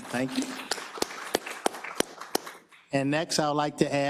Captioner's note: applause